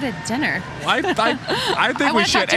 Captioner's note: laughing